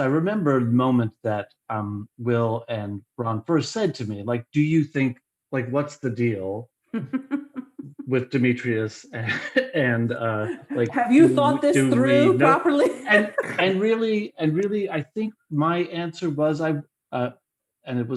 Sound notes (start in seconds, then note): 9.1 laughter; 12.7 laughs